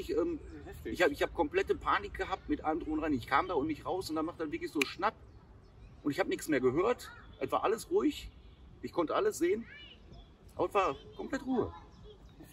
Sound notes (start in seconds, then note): 4.7 snap